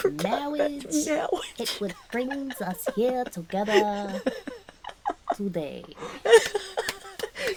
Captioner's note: laughing